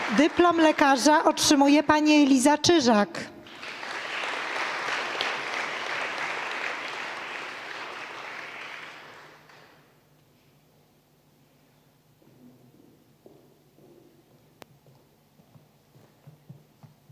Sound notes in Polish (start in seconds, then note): 3.4 oklaski